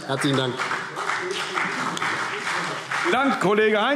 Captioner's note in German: Beifall CDU und BÜNDNIS 90/DIE GRÜNEN